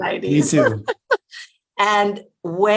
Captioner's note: chuckling